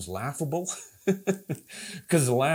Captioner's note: chuckles